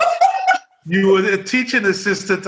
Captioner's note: laughs